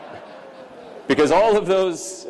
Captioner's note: laughter